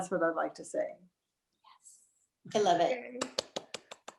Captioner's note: clapping